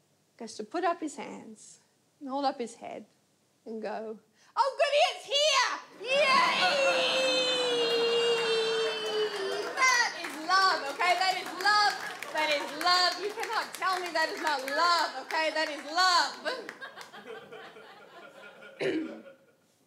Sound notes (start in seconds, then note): 8.0 audience laughs; 16.3 audience laughs